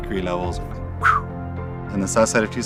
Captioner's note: whistles